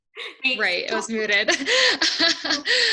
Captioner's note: laughs